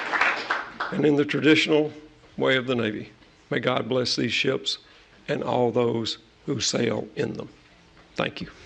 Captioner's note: applause